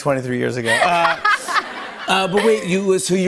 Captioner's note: laughter